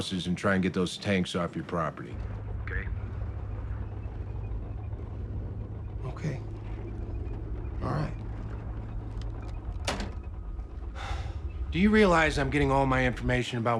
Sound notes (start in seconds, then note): 10.0 David sighs; 10.0 phone hangs up